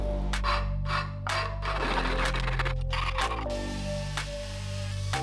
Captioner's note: cracking